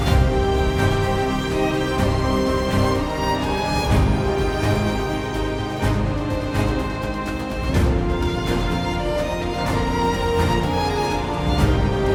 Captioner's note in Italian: Applauso